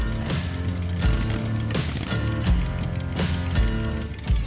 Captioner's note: engine croaks